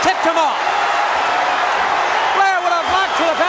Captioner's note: crowd cheering